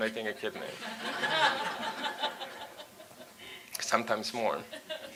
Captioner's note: audience laughs